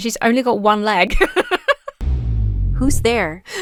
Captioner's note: laughs